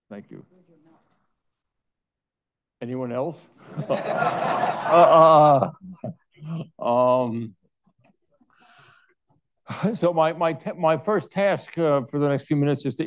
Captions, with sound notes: Thank you. Anyone else? (audience laughing) So my first task for the next few minutes is